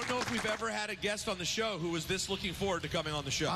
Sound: applauding

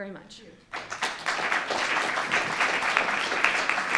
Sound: applause

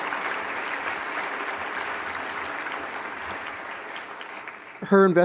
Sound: applause

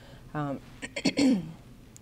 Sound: clears throat

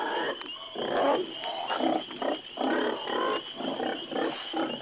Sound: insects chirping

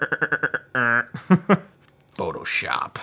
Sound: laughs

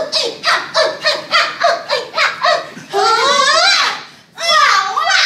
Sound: sisters vocalizing

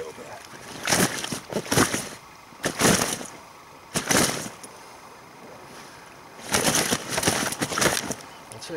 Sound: fish struggles

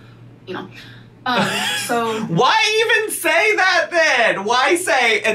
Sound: laughing

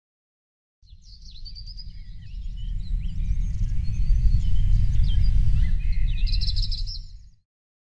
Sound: birds chirping

